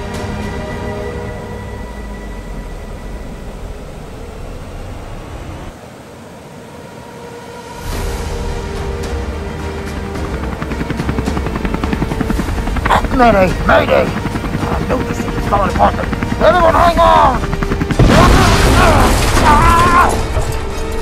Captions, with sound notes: (Rushing Water with Chopper Rotor Sounds) Mayday! Mayday! I knew this thing was falling apart! Everyone hang on! (Crash Sounds). Ahhh!